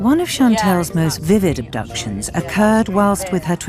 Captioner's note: voiceover